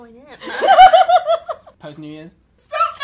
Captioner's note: laughter